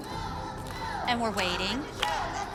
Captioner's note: chanting